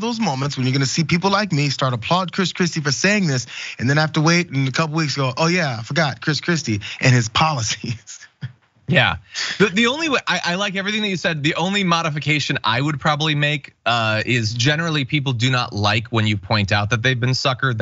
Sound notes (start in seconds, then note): 9.3 laugh